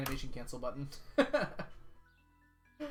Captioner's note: laughs